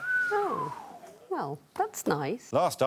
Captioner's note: whistles